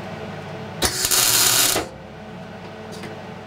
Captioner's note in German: Lautes Surren